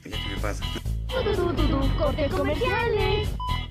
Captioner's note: funny Sounds